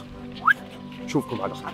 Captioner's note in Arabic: صوت صفير